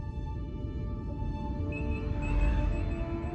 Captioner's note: beeping